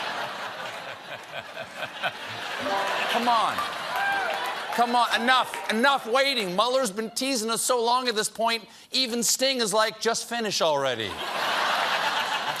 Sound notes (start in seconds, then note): 2.6 piano riff; 3.2 laughter